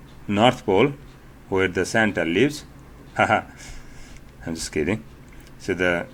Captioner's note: laughter